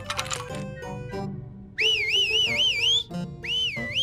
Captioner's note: whistles victoriously